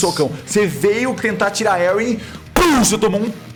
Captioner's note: pow